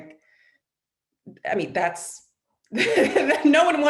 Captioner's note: laughs